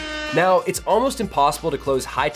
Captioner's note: AIRHORN.wav